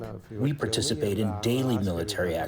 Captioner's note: through translator